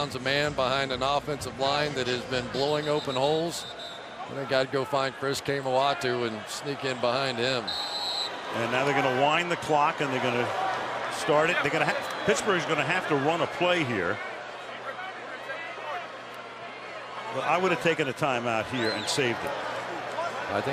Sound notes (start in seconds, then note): 7.6 whistle